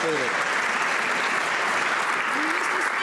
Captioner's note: some Applause